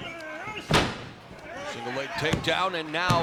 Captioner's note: thudding